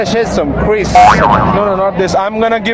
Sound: boinging sound

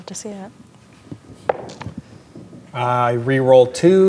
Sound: dice rolling

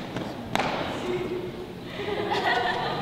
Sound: tap

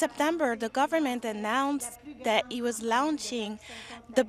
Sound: speaking French

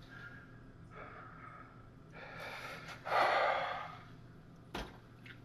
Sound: exasperated sigh

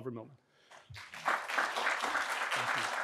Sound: audience clapping

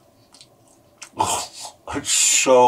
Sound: moans

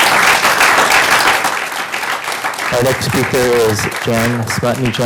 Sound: applause

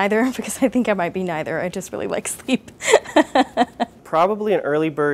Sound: chuckles

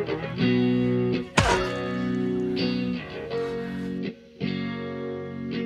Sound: wincing

